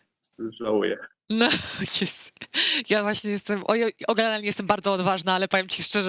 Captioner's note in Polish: śmiech